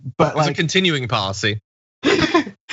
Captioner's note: laugh